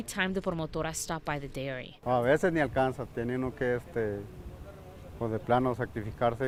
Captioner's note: speaking in foreign language